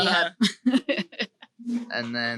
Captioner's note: laughs